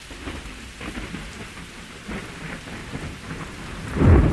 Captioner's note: thunder rumbling